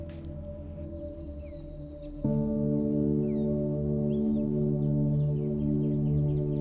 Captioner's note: birds tweeting; pensive music